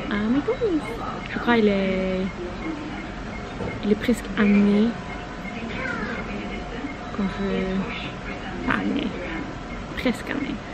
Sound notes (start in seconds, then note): 6.0 cashier beeping